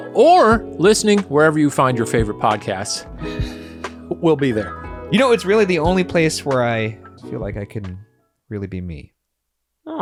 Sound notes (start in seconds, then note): none